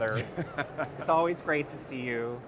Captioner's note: laughs